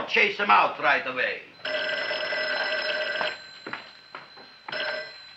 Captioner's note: phone ringing